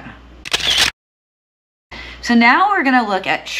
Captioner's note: camera shuttering